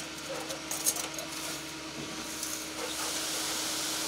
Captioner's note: engine revving